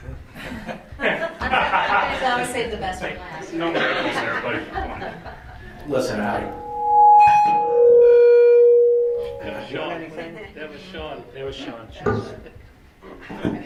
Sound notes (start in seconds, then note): 0.2 laughter; 6.2 microphone feedback